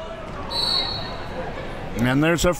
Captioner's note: whistle blows